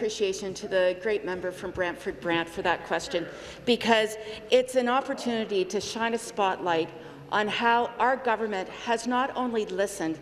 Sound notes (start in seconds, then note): none